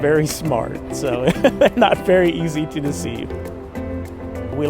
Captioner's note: laughs